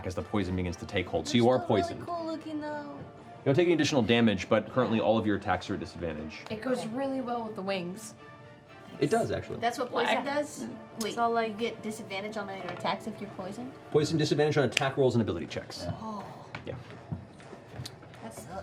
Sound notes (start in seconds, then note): none